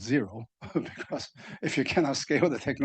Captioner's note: panelists laughing